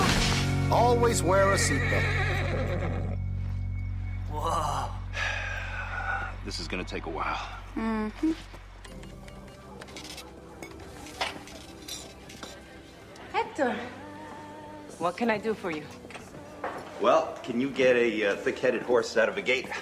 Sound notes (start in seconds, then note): 1.5 whinnies; 4.3 sighs